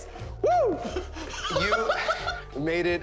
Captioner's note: laughing